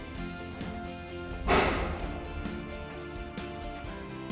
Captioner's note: jolt of the lift machinery starting